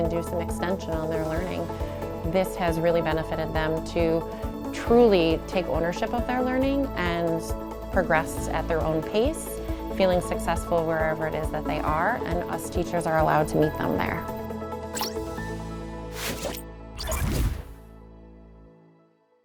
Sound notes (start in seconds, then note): 14.9 digital Woosh